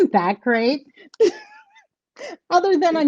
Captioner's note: laughing